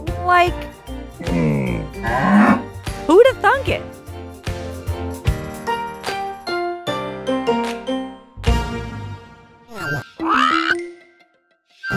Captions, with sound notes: like... [Camelot grunting] [Benjamin mooing] Who'da thunk it?